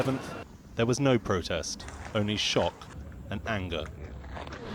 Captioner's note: sirens